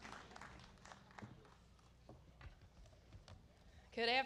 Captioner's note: applause